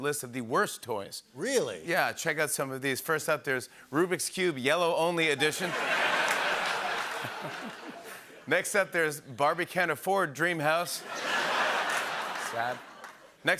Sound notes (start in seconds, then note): 5.4 laughter and applause; 11.0 laughter and applause